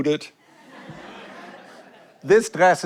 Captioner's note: audience laughs